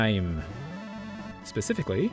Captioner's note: strange whirling noise